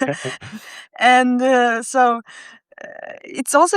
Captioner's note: laughs